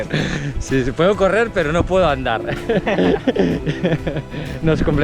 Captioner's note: laughs